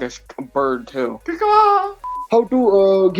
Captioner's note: bird noises